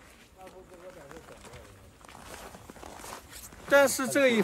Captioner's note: men chattering